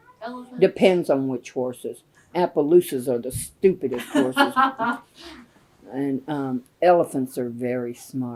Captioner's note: laughter